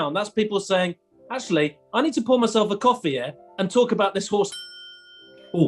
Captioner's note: ding!